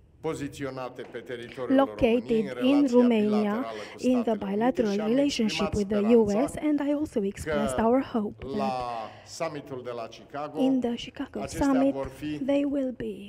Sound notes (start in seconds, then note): 4.9 speaking in romanian; 10.2 speaking in romanian